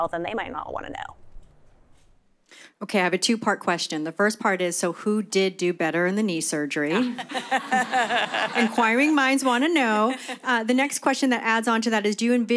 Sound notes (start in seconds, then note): 6.9 laughter